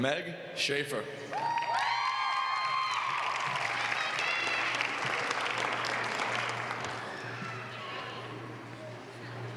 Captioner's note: applause